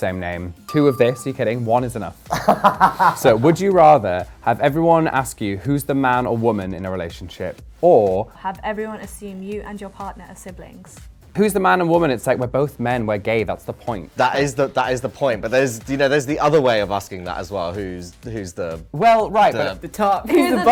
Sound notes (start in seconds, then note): 2.3 laughs